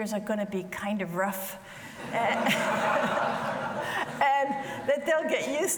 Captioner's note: audience laughs